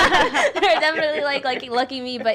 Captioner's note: laughing